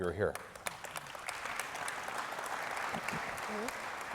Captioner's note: audience applauding